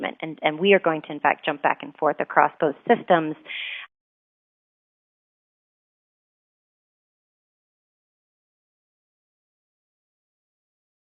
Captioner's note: audio gap